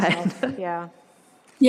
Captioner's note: laughs